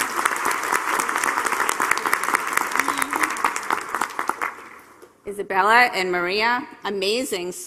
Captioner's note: applause